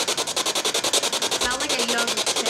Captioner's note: machine chiming